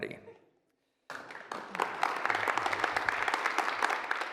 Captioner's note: applause